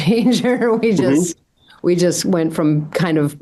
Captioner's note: laughs